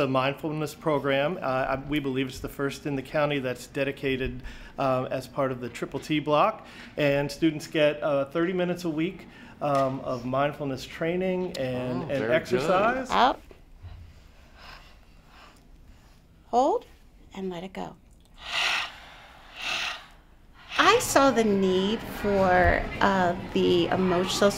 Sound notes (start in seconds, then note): 13.8 breathing noises; 18.3 louder breathing noises